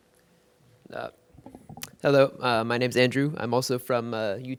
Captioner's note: mic creaks